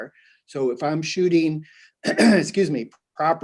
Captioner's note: clears throat